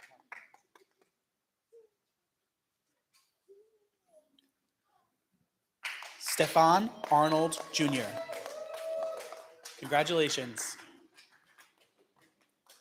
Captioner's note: clapping